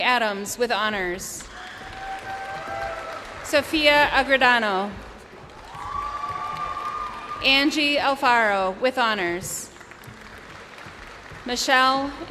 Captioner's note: names being called